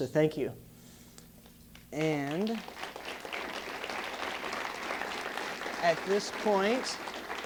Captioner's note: applause